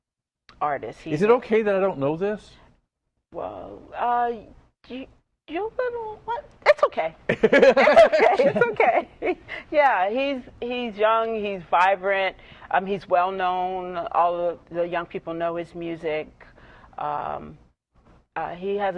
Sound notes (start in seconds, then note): 7.2 laughter